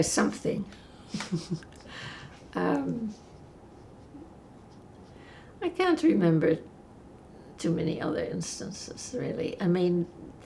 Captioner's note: laughing